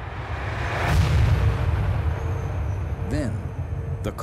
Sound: explosion blasting

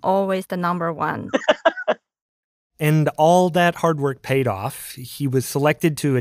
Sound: laughs

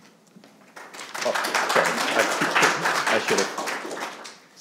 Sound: audience clapping

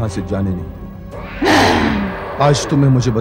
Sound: grunts

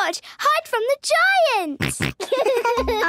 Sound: giggles, snorts

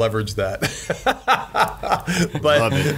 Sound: laughs

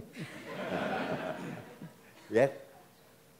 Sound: everyone laughs

